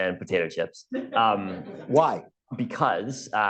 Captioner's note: laughter